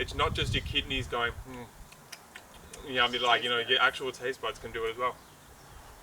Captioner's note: tasting noise